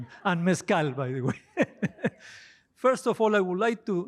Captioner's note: laughter